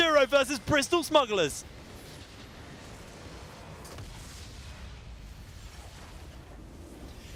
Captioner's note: game sounds